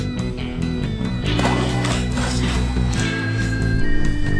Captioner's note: crashing